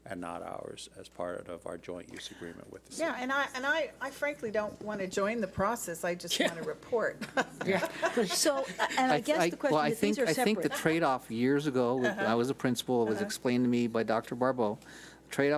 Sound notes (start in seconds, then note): 7.2 laughs